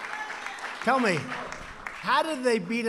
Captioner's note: applause